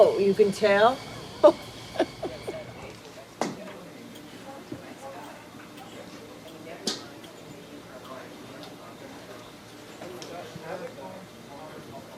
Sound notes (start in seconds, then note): 1.0 laughs; 3.7 people chattering